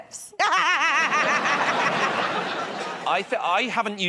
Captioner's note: laughter